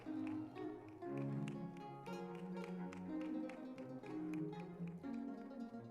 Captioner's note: lively music; crowd applauding